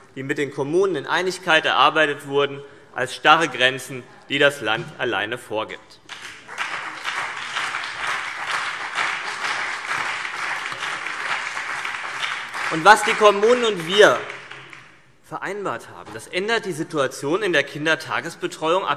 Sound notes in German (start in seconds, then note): 6.0 Beifall BÜNDNIS 90/DIE GRÜNEN